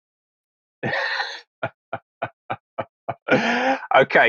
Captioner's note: laughter